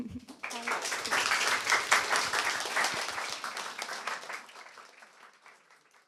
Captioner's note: applause